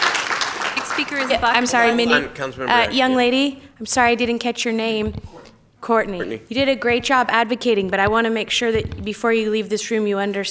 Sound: applause

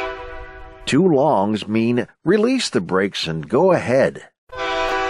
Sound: train horn hooting

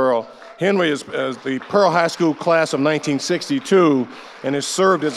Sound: audience applauding

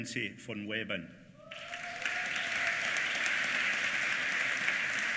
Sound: applause

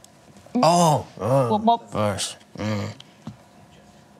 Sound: grunts

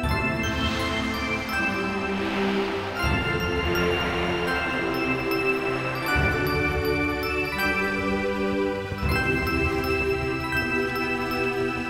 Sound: bells ringing

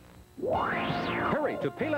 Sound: whoosh

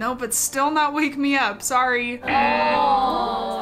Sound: buzzer

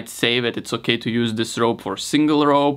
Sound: none

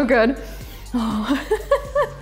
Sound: laughs

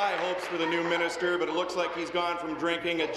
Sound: applause

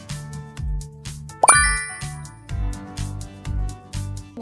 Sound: ding

